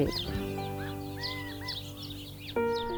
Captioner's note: various bird calls